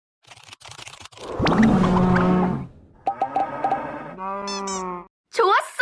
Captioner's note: cows grunting